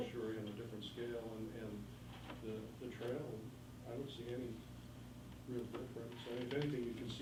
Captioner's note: faintly speaking